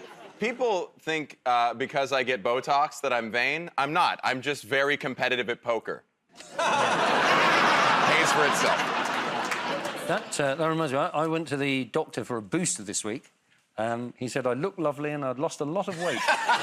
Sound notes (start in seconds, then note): 6.4 laughter